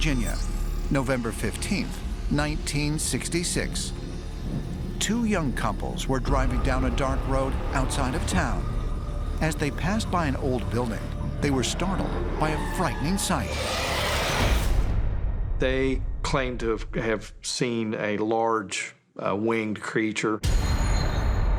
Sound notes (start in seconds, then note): 13.0 screeching